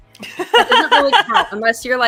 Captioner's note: laughes